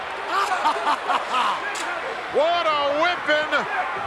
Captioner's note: Rowdy Piper laughs